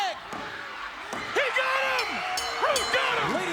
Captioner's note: bell ringing